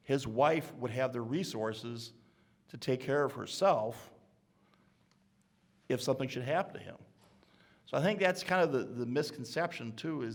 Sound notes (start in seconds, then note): none